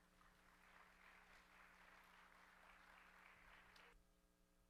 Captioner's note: audience applauds